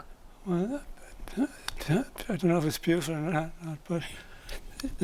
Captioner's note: laughs